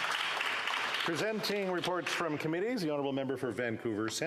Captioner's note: some Applause